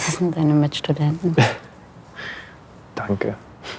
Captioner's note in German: lacht auf